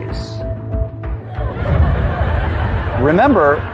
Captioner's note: laughter